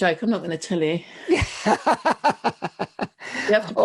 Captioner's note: laughs